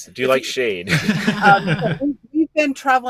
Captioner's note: all laughing